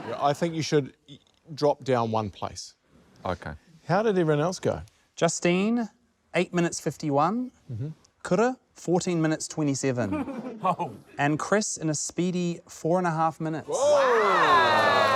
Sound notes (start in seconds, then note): 10.1 chuckles